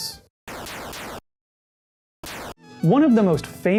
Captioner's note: peepeepewpew laser sounds